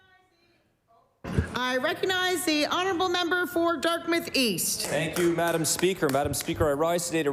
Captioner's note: applause